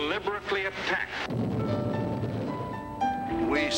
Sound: bomb blast

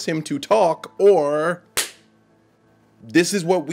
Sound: slaps hand

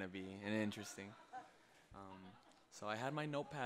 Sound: group laughing

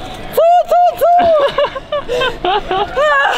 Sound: laughing

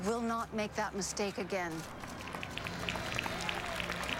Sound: cheers and applause

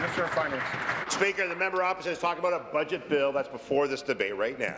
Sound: applause

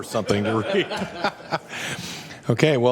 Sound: laughter

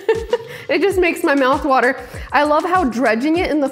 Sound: laughs

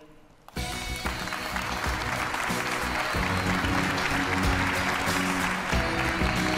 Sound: audience clapping

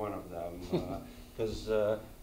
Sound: chuckles

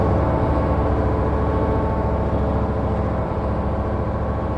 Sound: engine roaring

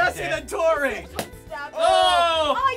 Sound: balloon popping

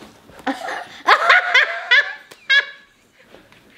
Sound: laughs

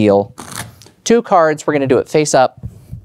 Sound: cards riffling

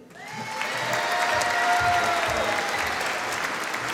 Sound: audience applauding

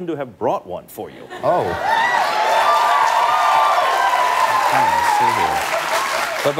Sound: cheers

